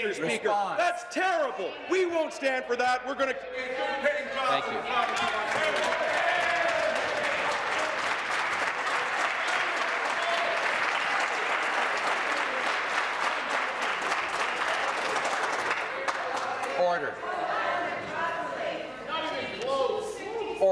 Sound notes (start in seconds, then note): 8.5 voice trailing; 9.4 applause